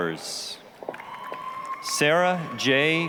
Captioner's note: applause, cheering